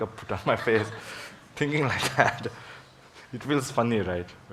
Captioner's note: audience laughs; laughs